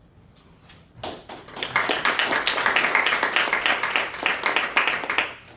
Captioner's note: applause